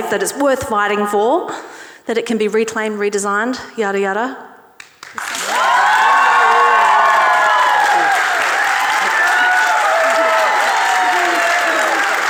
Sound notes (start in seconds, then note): 5.2 audience cheering